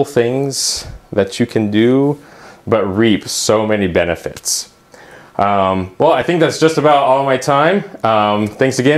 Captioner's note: uumm